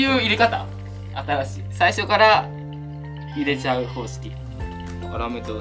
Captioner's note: laughs